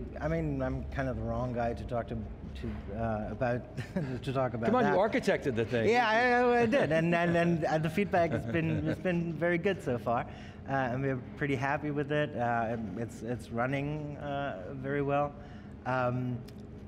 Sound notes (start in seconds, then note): 3.7 chuckles